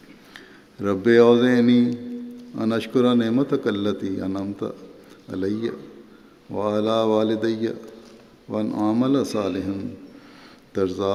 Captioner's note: Arabic